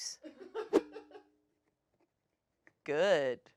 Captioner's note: crew laughs